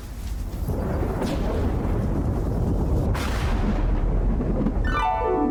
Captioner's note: thunder